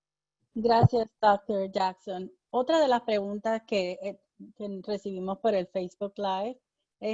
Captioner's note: speaking in foreign language